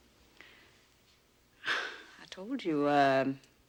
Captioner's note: chuckles softly